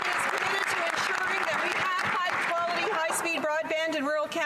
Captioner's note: some Applause